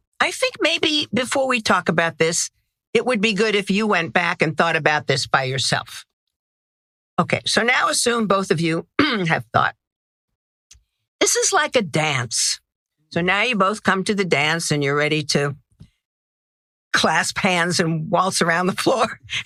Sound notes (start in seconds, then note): 8.9 cough; 19.2 laugh